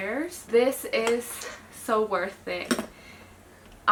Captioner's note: bottle squelching